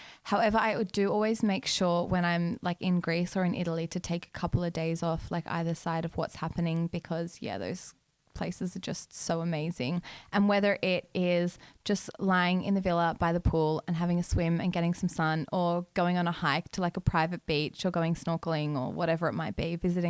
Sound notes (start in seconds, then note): none